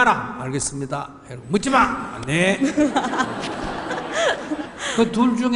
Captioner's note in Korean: 질문자와 청중 웃음